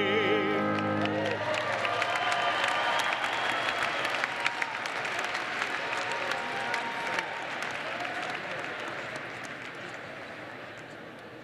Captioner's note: applause